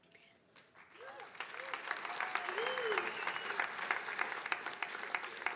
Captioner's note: attendees cheering and applauding